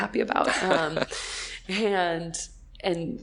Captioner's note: laughing